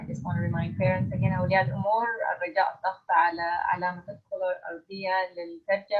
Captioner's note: in foreign language